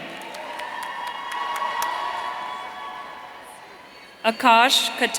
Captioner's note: audience cheering